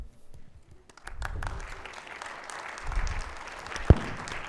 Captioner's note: audience applauds